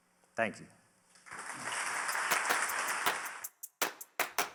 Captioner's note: audience clapping; upbeat clappy music